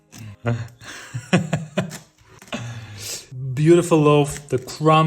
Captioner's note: chuckling